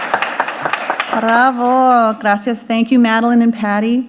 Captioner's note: audience applauding; speaking in foreign language